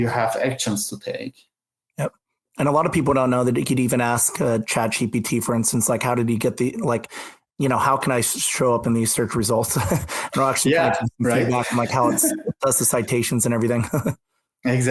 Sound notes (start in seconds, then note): 9.7 laughs; 14.3 laughs